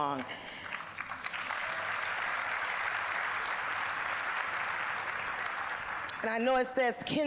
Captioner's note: applause